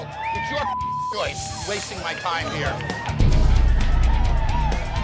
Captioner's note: beep; rock music